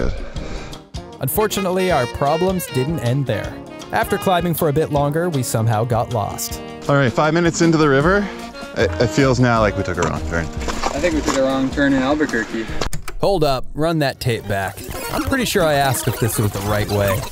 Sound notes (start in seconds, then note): 14.4 tape rewinds